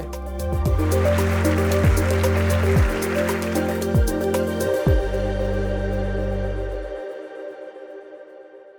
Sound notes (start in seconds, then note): 0.7 applause